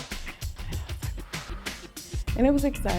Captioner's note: sighs